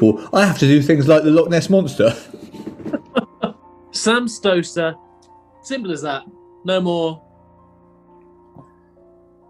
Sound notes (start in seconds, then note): 2.2 chuckling